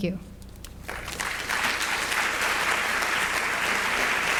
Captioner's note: audience applauds